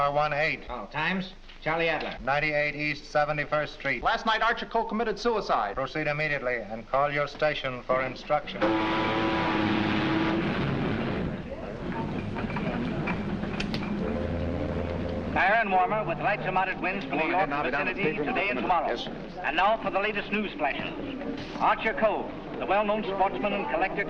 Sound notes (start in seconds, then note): 8.6 ship horn blaring; 14.7 man over radio